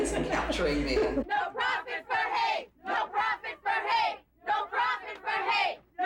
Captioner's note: chant